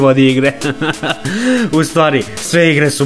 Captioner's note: he laughs